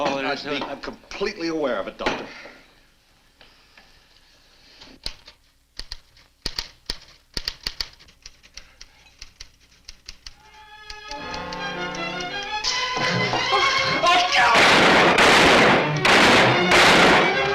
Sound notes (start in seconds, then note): 4.8 typewriter clacks; 10.5 tense orchestral music; 14.5 gun fires